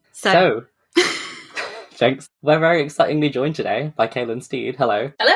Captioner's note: laughs